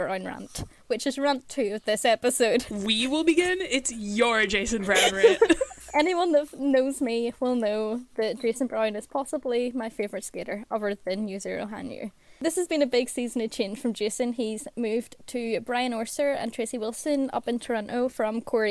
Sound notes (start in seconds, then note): 4.7 hosts laugh